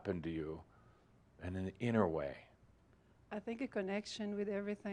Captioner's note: none